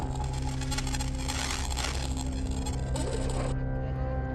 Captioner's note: static crackling